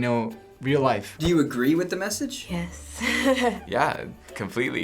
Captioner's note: laughs